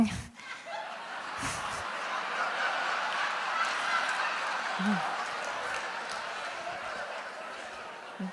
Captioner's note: laughter